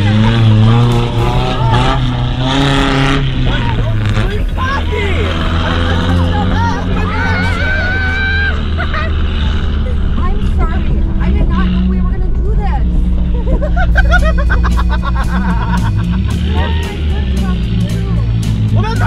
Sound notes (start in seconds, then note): 7.0 screaming; 13.2 laughing